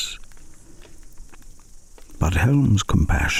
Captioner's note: fire crackling and night insects buzzing